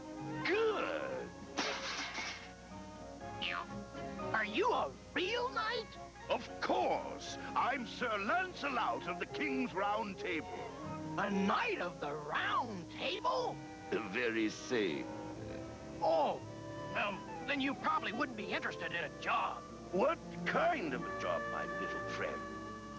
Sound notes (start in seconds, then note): 1.6 crash; 3.4 boing